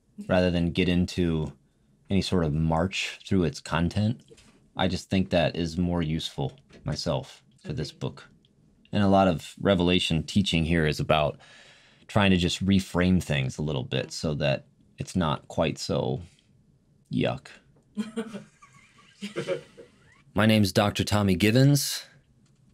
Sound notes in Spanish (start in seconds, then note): 18.0 Risas